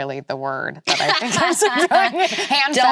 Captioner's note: both laughing